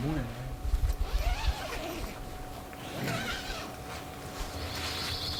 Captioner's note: tent zipping open